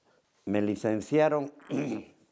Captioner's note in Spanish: carraspea